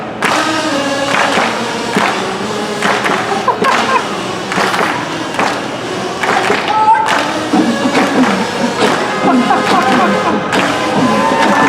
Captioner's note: kazoos; claps